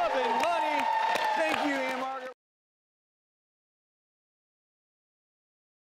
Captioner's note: crowd cheering